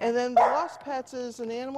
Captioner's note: dog barkin